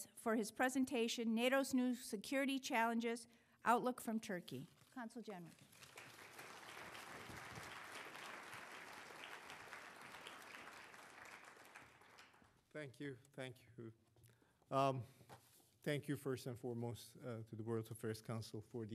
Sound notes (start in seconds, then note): 6.4 applause